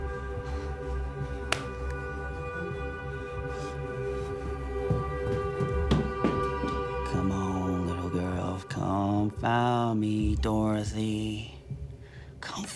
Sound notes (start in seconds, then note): 1.2 hand thuds; 5.0 feet pattering